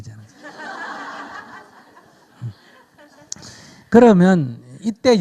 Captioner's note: audience Laughter